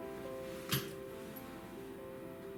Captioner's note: slap